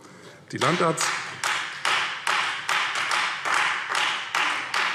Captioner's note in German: Beifall Freie Demokraten